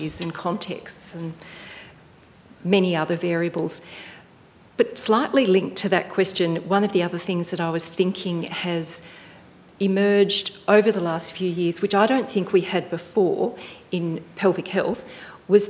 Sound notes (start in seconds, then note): none